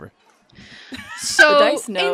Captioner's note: laughs